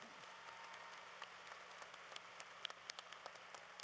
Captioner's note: applause